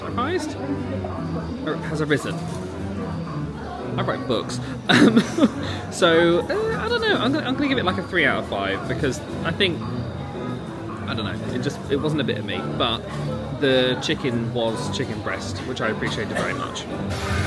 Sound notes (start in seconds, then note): 4.6 laughs